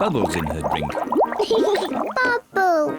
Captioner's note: laughs